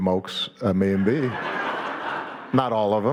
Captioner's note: audience laughing